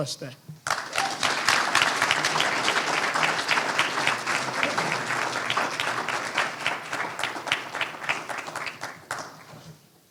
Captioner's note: applause